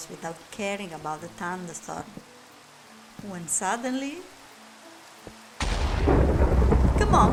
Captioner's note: thunder